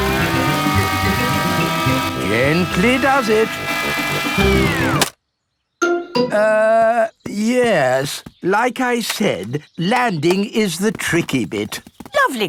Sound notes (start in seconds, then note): 0.0 plane humming; 4.7 humming stops